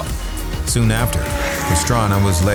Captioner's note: car engine roaring